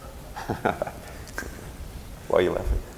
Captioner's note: laughing